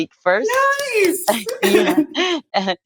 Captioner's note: claps